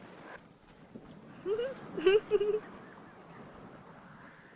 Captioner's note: laugh